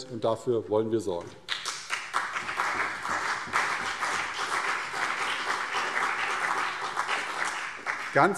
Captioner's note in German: Beifall CDU und BÜNDNIS 90/DIE GRÜNEN